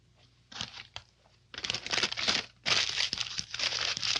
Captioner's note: paper crinkling